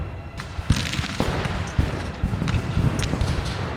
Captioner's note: guns fire